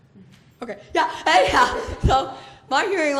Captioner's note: laughs